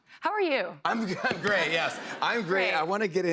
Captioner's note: laughter